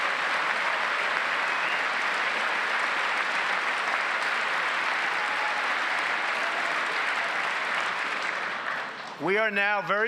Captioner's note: applause